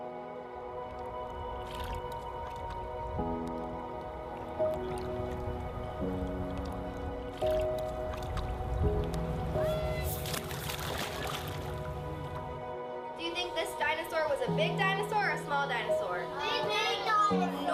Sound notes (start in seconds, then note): 12.3 water splashing